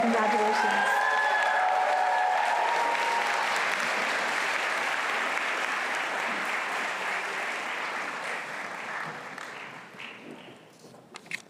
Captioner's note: applause